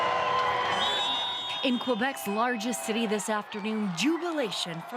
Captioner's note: cheers and Applause